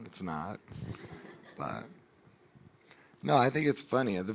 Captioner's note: audience laughing